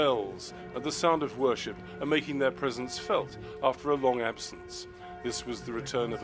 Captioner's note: bells ringing